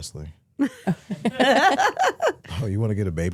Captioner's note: hosts laughing